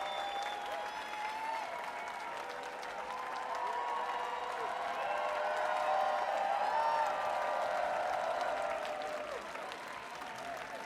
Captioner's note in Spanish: Aplausos